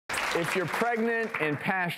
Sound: audience applause

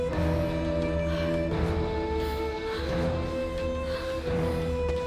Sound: panting

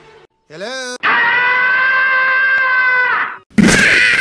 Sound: Tom Cat Screaming

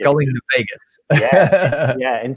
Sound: laughs

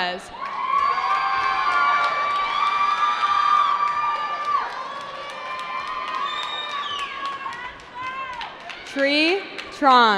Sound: cheering

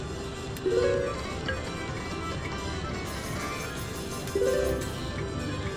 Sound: machine beeps

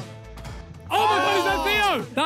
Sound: players exclaim

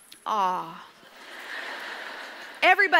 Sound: audience laughs

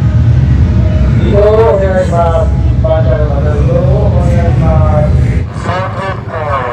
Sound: Speaking Japanese

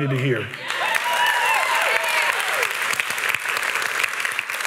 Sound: applause

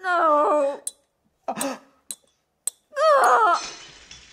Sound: glass cracking; JENNY cries in pain; jar smashes

